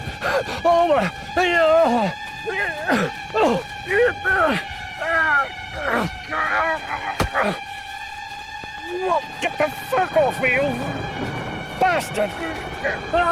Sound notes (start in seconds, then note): 0.6 Johnny groaning; 10.9 thunder rumbling